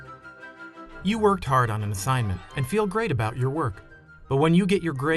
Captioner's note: voiceover